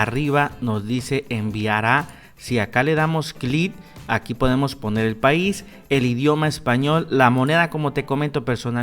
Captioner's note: Spanish